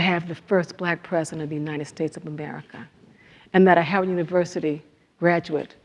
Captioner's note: none